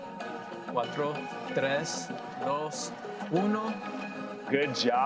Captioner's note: in foreign language